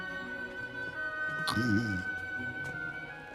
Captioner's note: mr. bigsby snoring